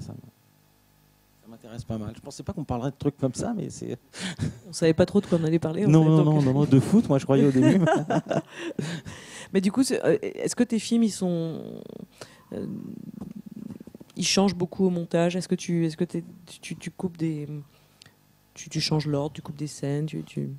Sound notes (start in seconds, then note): 7.4 laughs